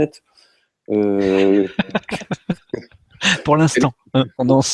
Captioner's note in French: rires